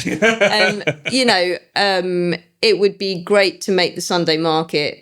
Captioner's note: laughing